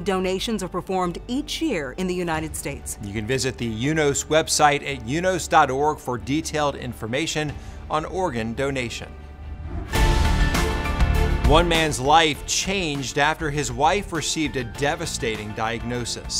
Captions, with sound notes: are performed each year in the United States. - You can visit the UNOS website at unos.org for detailed information on organ donation. (whooshing) (upbeat music) One man's life changed after his wife received a devastating diagnosis.